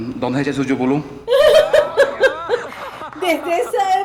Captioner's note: laughs